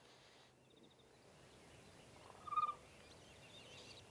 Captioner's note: turkey calling